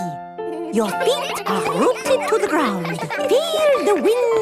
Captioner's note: all giggling